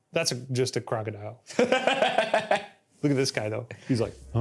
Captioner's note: laughs